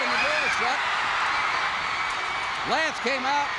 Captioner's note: crowd cheers